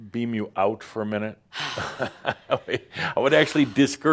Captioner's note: sighs heavily and walks to the back of the room